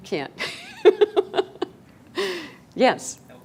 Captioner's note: laughing